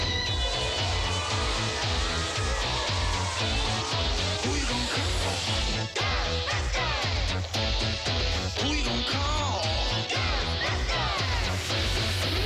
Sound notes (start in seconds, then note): 5.5 animal growls